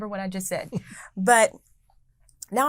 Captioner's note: laughing